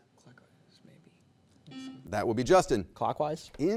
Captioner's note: buzzer beeps